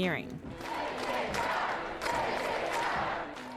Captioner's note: crowd chants